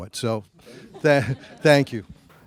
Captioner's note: audience laughs